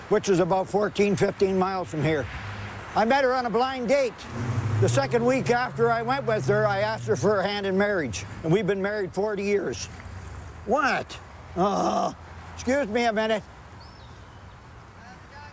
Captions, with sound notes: which is about 14, 15 miles from here. I met her on a blind date. The second week after I went with her, I asked her for her hand in marriage and we've been married 40 years. What? (grunting) Excuse me a minute.